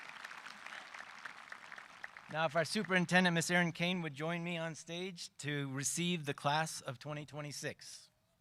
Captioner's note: cheering and applause